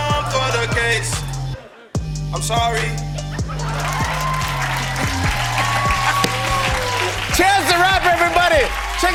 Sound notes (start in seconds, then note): 3.4 cheers and applause